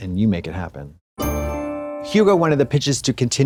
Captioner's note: bright chime